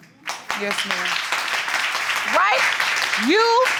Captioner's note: applause